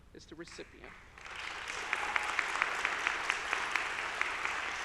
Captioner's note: audience applauding